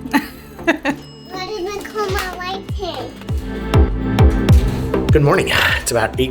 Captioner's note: laughs